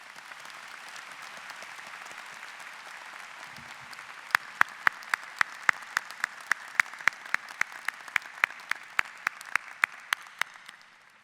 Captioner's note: applause